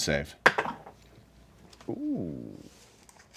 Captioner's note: dice clatter